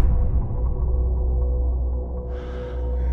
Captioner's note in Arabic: يتنفس بشدة